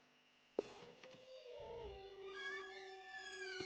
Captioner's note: dog howls in the distance; floorboards creak; door creaks